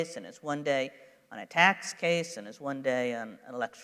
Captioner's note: none